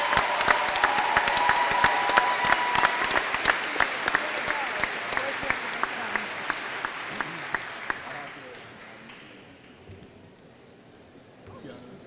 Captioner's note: applause